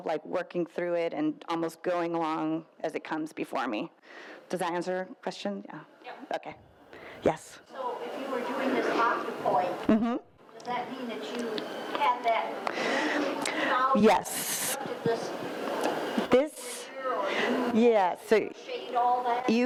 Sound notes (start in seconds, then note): 13.0 speaks faintly